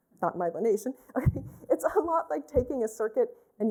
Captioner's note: laughter